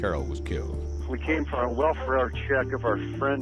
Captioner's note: 911 recording